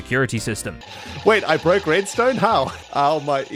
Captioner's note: alarm blaring